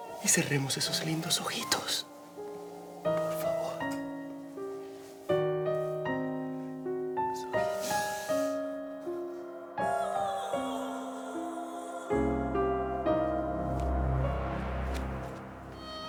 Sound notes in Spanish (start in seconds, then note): 12.8 Sollozos